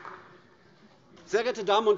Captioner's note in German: Beifall AfD